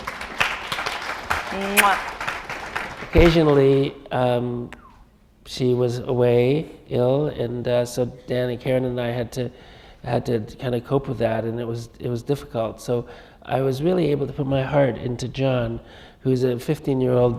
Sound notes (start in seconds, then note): 3.6 applause